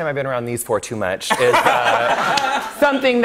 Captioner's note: laughter